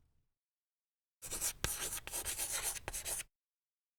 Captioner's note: writing on chalkboard